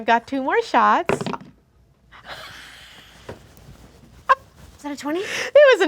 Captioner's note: dice roll; laughing